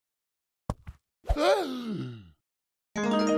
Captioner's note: gasp